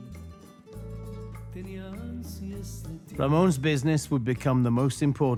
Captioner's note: in English